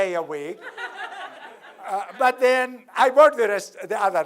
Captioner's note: laugh